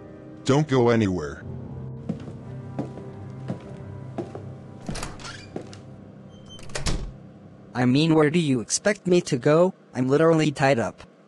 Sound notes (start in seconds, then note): 2.0 footsteps; 4.1 footsteps; 4.8 door opening; 5.5 footsteps; 6.3 door closing